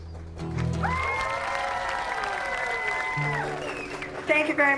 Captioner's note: applause